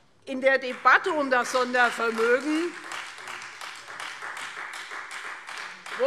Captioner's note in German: Beifall Freie Demokraten